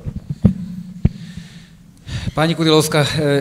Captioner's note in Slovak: výdych